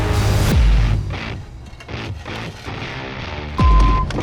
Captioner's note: machinery whirring; upbeat music; shovel scraping; upbeat music; vehicle beeping